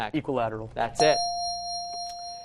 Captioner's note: ding